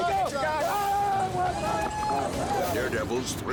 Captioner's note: people whooping; screams